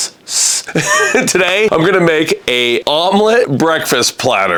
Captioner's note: laughing